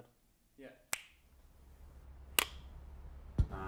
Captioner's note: clicks fingers